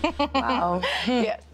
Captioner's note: chuckles